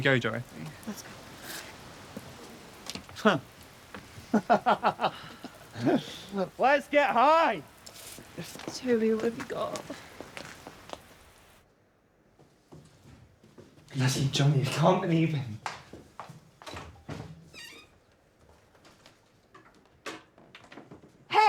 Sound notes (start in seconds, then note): 4.0 laughs; 12.6 feet pattering; 16.7 door clattering and squeaking